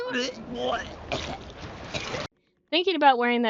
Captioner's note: pukes